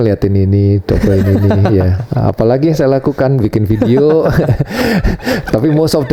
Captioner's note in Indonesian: tertawa